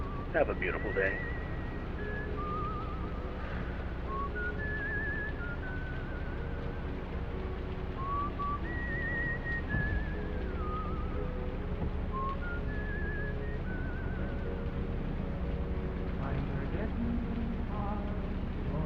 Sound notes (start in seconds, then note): 0.0 radio; 10.0 window rolls down